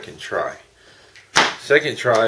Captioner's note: pop sound